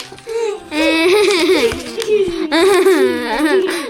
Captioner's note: crying; laughter